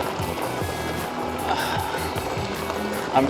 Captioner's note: unsure sigh